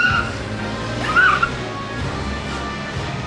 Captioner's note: tires screeching